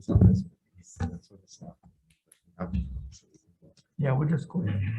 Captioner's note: indistinct conversation